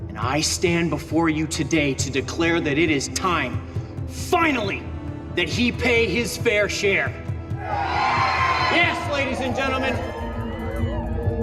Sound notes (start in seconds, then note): 7.5 cheers